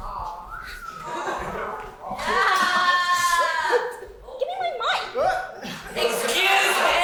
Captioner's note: audience: woah!